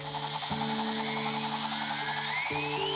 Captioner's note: whizzing sound